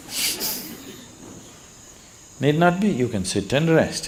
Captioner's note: laughter